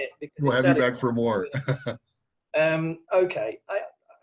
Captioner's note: laughs